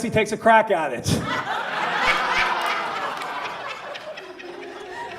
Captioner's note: audience laughs